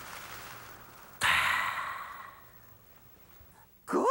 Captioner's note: exhales